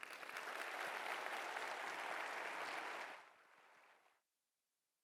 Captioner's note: audience applauding